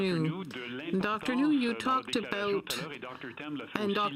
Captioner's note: speaking French